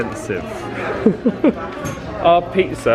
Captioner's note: laughing